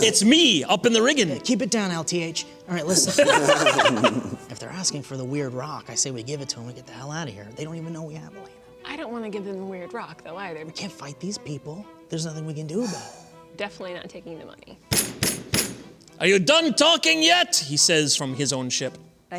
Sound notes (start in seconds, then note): 2.8 laughter; 14.9 loud knocking